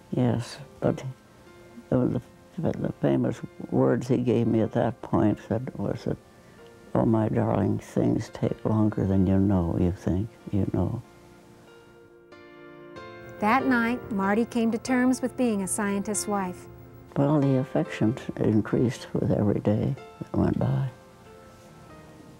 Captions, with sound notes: Yes, but the famous words he gave me at that point was that, "Oh my darling, things take longer than you know." You think you know. - [Voiceover] That night Mardy came to terms with being a scientist's wife. - But all the affection increased with every day that went by,